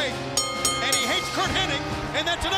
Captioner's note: bell ringing